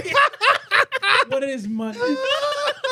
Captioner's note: laughing